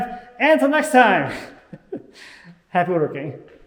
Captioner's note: laughing